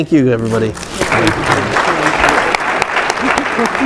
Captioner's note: audience applauds